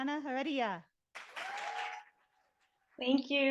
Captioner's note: audience applauding